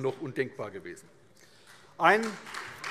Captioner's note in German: Beifall SPD und vereinzelt CDU